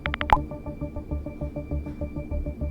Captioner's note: typing sound